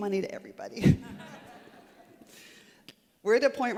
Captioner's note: laughter